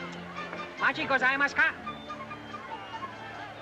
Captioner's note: jaunty oriental music; speaking in Japanese; jaunty oriental music